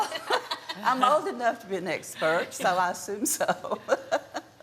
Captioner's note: laughing; laughs